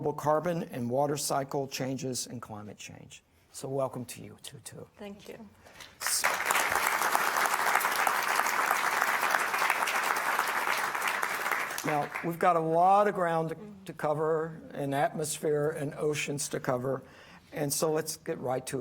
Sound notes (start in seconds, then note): 5.9 audience applauding